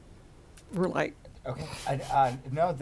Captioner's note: voice muffled